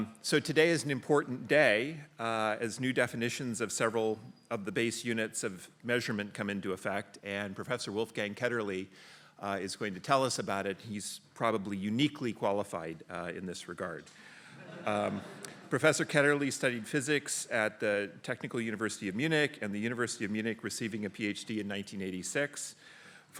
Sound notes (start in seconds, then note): 14.5 laughter